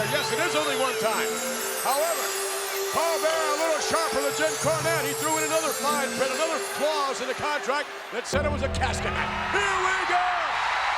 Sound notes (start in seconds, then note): 8.3 ominous music; 9.2 audience cheers